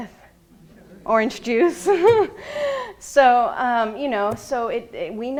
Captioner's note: laughing